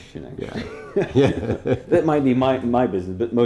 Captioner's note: laughing